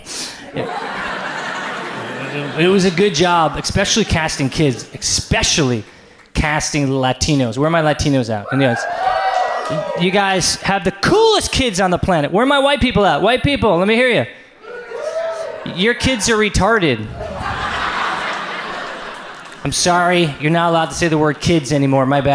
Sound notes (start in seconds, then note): 0.4 audience laughs; 8.5 audience cheers; 14.6 audience cheers; 16.9 audience laughs